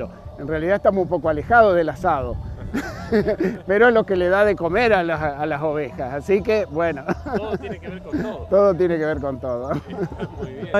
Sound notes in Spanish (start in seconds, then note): 7.0 risas